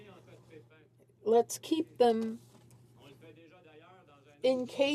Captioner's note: none